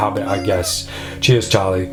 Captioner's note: cat meows